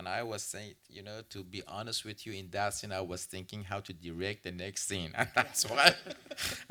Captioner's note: laughs